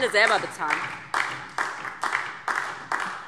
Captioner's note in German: Beifall DIE LINKE und vereinzelt SPD